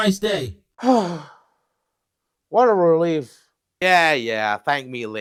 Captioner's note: sigh